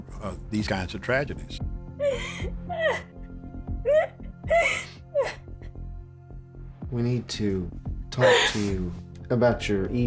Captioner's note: crying